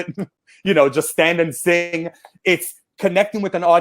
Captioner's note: chuckles